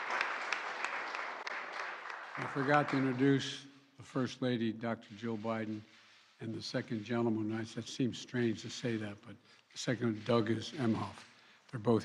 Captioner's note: applause